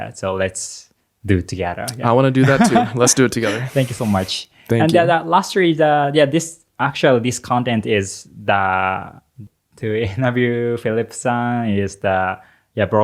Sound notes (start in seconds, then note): 2.4 laughs